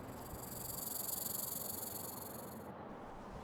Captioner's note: snake hissing